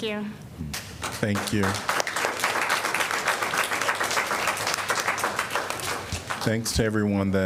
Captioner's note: applause